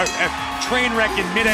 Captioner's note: bell ringing